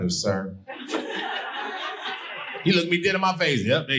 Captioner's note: audience laughing